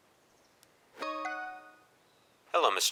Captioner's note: phone chimes